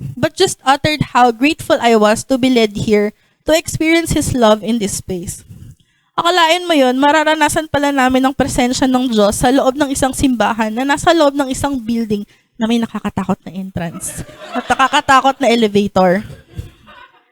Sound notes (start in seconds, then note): 13.9 laughter